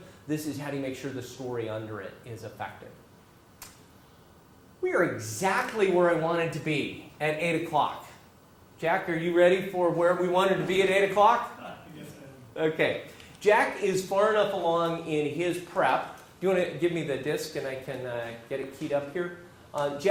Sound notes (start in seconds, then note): 11.7 laugh